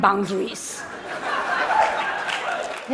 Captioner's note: Laughter; 笑聲